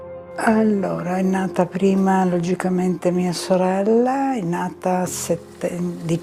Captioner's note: speaking in foreign language